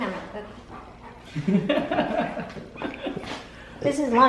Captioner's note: laughs